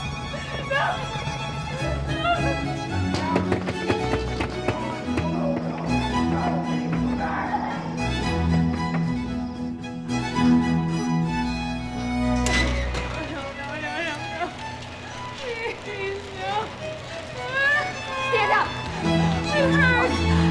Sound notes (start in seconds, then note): 2.9 Jane and Ellis bang; 4.2 Jane and Ellis scream; 12.0 door creaks